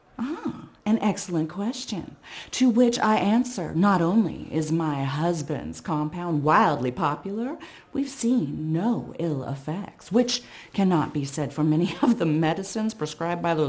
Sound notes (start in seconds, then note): none